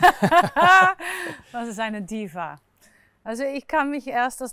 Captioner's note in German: Lacht